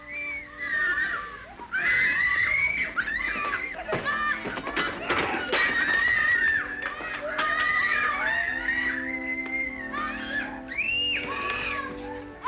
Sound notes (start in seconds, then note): 0.1 children happily screaming; 5.3 vase crashing; 9.2 soft organ music